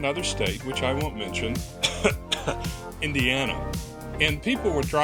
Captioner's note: coughs